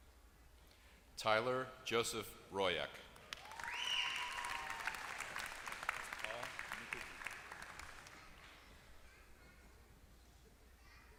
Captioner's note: applause